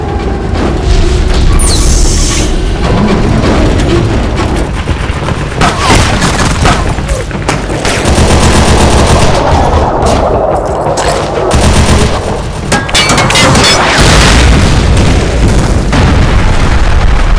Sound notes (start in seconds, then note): 1.7 Dreadnought turning on; 5.5 Continued Dakka Noises; 12.9 explosion